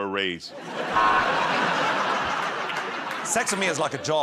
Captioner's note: laughter